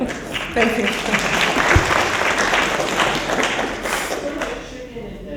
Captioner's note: applause